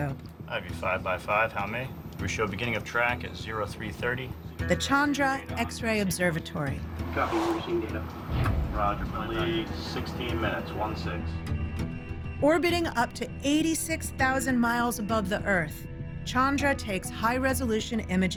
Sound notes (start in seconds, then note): 6.9 people talking on radio